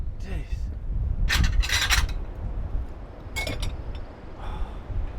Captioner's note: plates clinking